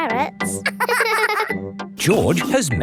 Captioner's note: both laughing